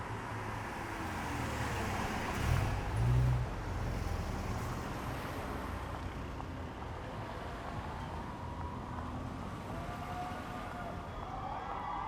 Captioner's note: cars running